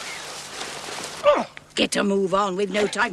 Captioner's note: man grunts